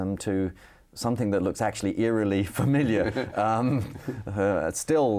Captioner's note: chuckles